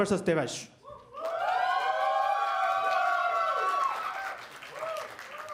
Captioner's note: applause